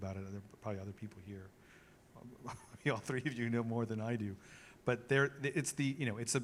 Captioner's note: laughs